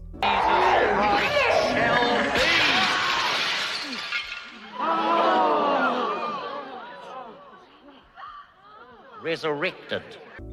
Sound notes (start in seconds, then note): 3.2 Lionel yells; 4.5 gasps